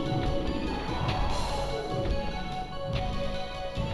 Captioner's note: roars